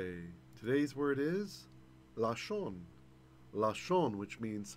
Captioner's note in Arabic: بالعبرية